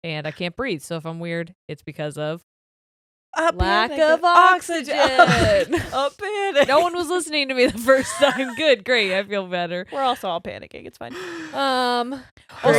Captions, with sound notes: and I can't breathe so if I'm weird it's because of, - A panic - lack of oxygen. (laughing) - A panic! - No one was listening to me the first time. - Good, great! I feel better. - We're also all panicking, it's fine.